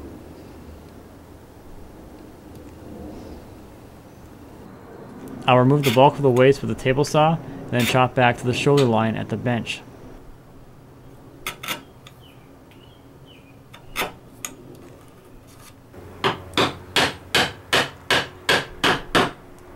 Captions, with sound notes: I'll remove the bulk of the waste with the table saw, then chop back to the shoulder line at the bench. (wood scraping) (pounding)